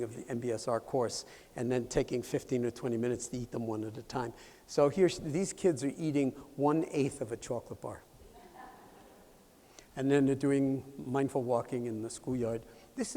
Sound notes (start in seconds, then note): 8.1 laughter